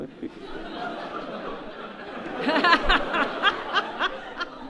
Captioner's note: audience laughs